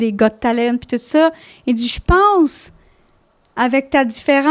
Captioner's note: in french